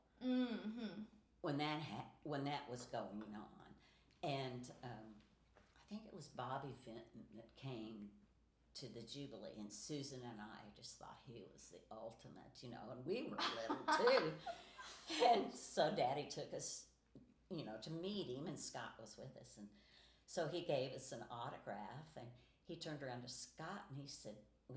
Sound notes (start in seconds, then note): 13.4 laughing